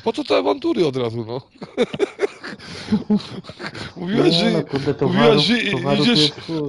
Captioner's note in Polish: śmiech